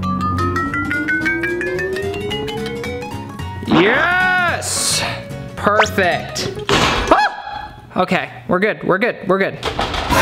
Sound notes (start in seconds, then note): 0.2 cheerful music; 0.2 xylophone notes ascending; 6.7 metal thumping